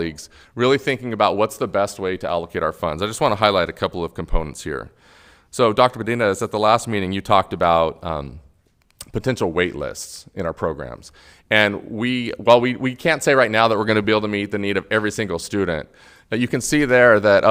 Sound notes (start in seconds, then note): none